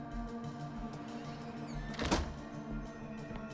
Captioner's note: door creaks, closes